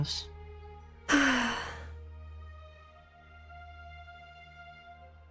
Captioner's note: ROSE sighs